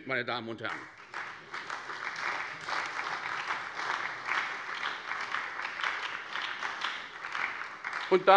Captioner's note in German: Beifall bei der SPD